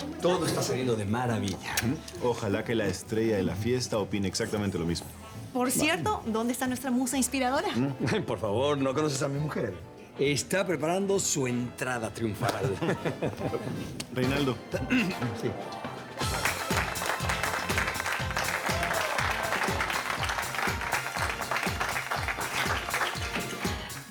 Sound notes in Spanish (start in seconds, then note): 15.6 Risas; 21.1 Aplausos